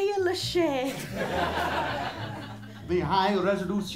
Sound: laughter

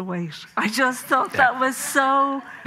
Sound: audience laughing

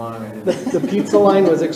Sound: all laughing

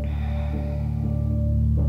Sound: exhales

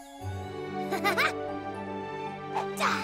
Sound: chuckles

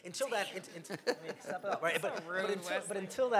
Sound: laughing

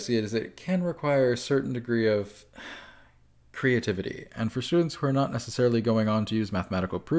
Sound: sigh

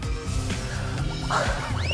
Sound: gasp

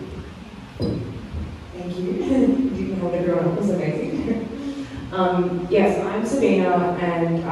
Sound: chuckles

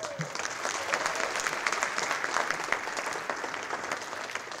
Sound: audience applauding

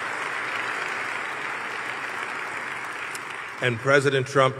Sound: applause

